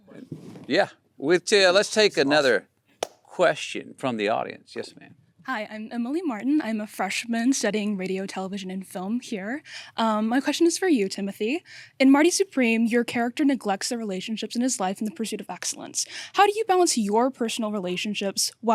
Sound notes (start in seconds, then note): none